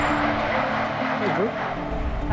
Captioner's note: train